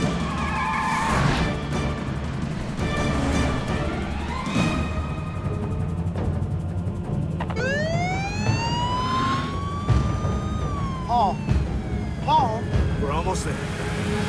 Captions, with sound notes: (intense dramatic music) (police siren wailing) - Paul, Paul! - We're almost there.